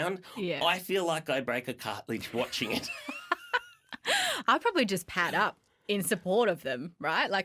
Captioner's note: laughter